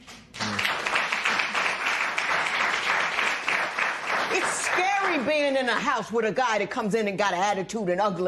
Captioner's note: applause